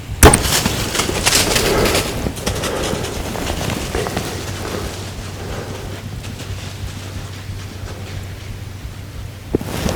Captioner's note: sound of bowshot; sound of running